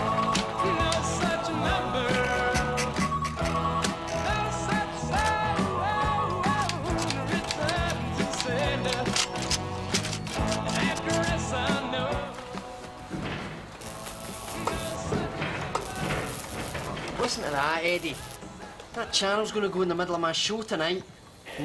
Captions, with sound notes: (BUZZING) Listen to that, Eddie. That channel's gonna go in the middle of my show tonight.